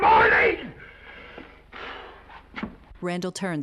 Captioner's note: Mr. Randall exhaling